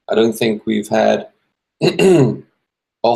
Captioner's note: clearing throat